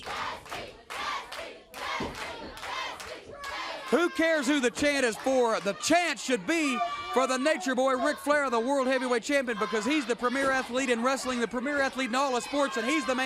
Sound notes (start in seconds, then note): 6.2 crowd cheering